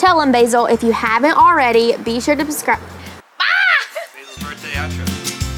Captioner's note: screeches